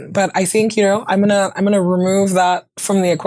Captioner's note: none